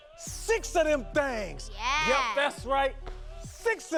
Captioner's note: laughs